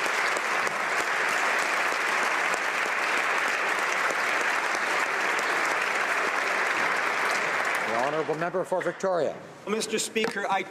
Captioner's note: applause